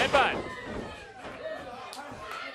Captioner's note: crowd chatter